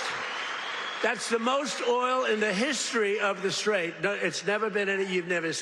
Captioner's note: applause